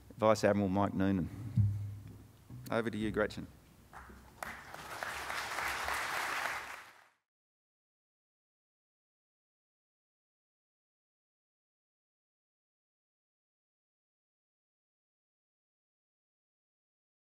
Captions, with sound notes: Vice Admiral, Mike Norman, over to you Gretchen. (crowd clapping)